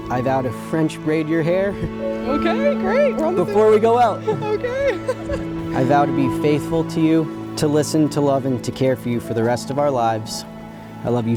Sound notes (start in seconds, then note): 5.4 laughs